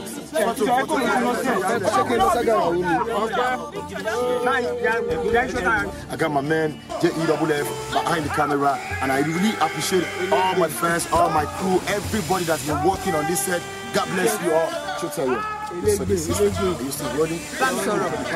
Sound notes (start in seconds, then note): 15.1 speaking in foreign language